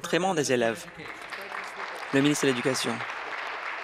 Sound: applause

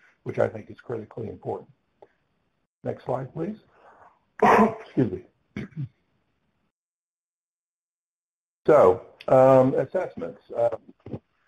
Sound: cough

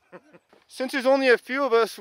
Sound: chuckles

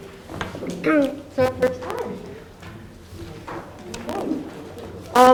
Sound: clears throat

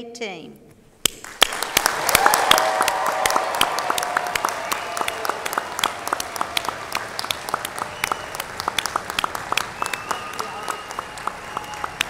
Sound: applause

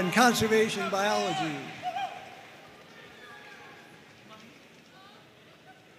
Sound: audience cheering and applauding

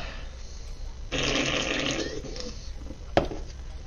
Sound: sip

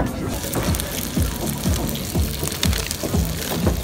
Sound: sizzling

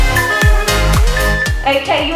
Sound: timer beeping

